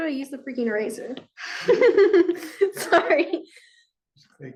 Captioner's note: chuckles